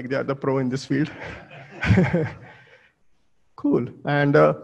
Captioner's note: audience laughs